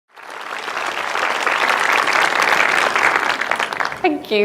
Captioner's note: audience applauding